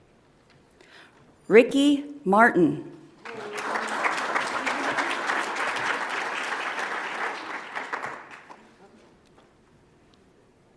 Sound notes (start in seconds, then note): 3.2 audience applauds